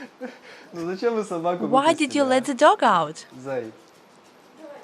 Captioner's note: laughter